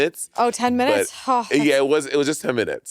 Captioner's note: sighing; sighing